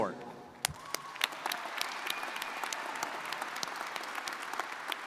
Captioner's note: crowd applauding